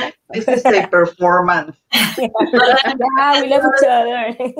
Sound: laughs

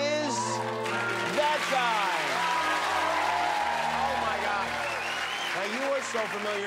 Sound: cheers and applause

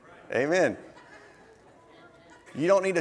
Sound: audience laughing

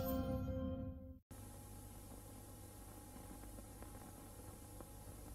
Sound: VHS static

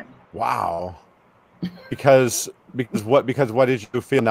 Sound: Tonya chuckles

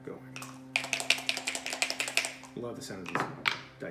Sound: dice shaking

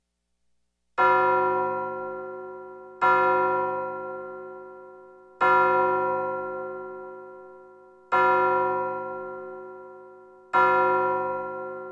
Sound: clock strikes twelve

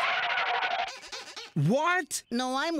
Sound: feet squeal

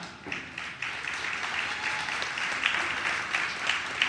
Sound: audience claps

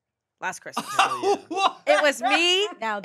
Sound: laughs

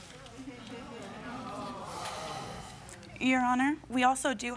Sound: spectators murmur

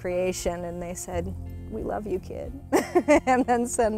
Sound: laughs

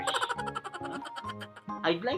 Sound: funny laugh

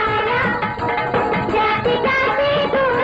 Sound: none

